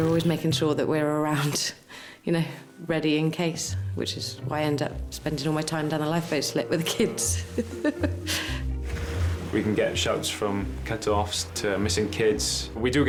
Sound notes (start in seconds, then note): 7.3 laughing